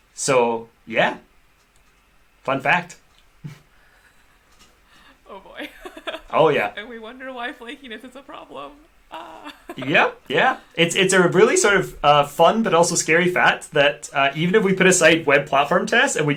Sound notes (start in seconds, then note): 5.4 laughter; 9.2 laughs